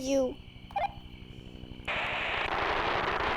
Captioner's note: radio crackling; helicopter blades chopping